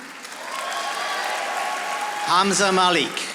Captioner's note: audience applauding